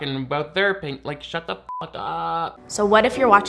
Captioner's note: beep